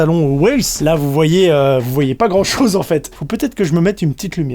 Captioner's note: laughs